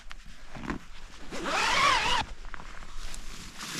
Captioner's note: zipper